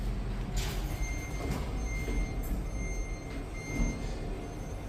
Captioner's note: door buzzer